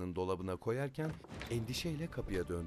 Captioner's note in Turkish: Kapı açılma sesi